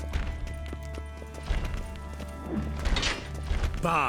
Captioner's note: thudding continues